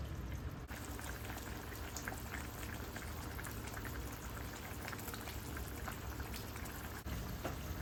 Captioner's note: braising asmr